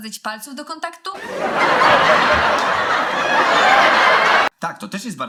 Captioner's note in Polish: gromki śmiech z serialu komediowego